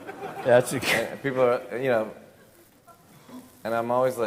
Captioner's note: laughs